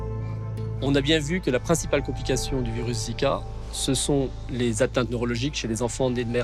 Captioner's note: speaks in foreign language